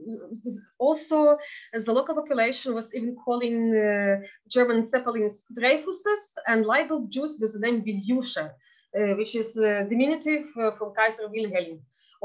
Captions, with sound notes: And also as the local population was calling the German (speaking foreign language) and rebel Jews was the name (speaking in Yiddish) which is diminutive of Kaiser Wilheim.